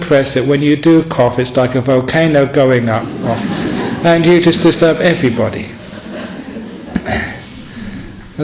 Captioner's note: laughter